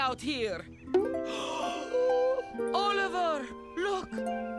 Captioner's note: soft harp music; mother gasps